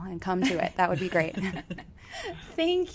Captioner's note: both laughs